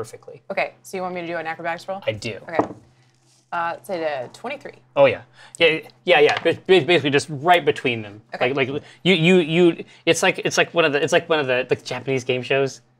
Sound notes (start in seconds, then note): 2.7 die clatters; 6.3 stammers; 9.2 stammers